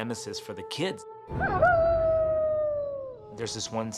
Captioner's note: howling